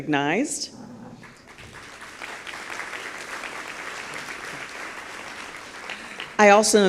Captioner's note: applause